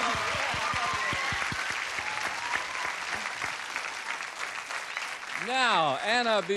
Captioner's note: cheers, applause